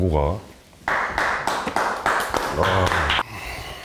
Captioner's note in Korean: 축하 박수